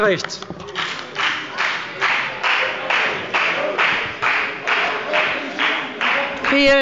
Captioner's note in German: Beifall bei der FDP